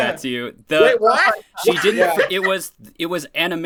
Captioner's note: laughs